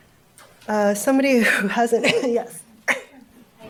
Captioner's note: coughs